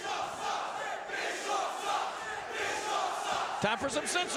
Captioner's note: crowd chants